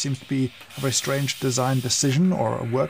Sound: milk hissing

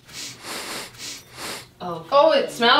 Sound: sniffing sounds

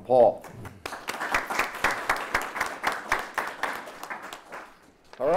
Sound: audience applauds

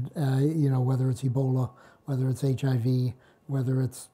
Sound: none

